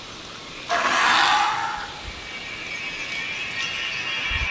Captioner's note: dinosaur squawking